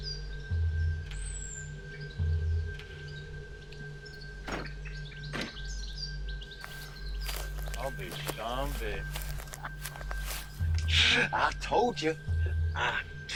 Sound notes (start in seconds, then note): 0.0 slow music; 3.7 truck doors slam